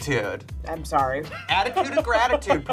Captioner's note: laughs